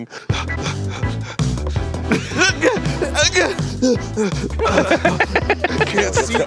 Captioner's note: making all sorts of struggle sounds